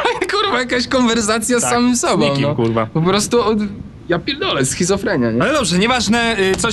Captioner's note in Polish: śmiech